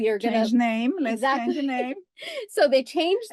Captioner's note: laugh